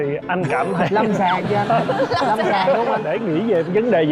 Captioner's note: laughter